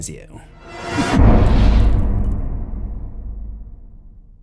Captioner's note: impact